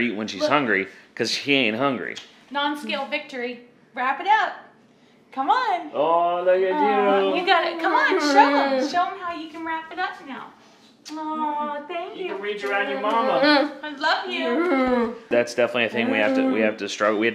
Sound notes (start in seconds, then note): 7.7 vocalizes happily; 11.0 kisses; 14.4 laughs